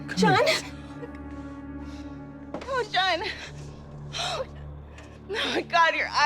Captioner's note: sighing